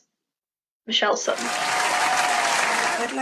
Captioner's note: applause